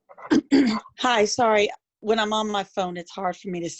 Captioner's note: clears throat